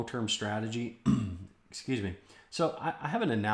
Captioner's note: clears throat